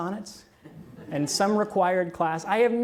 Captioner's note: audience laughs